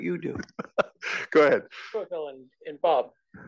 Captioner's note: laugh